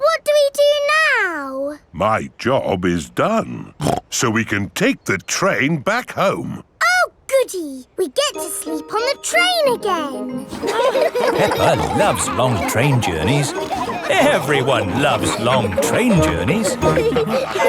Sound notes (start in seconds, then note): 10.3 laughing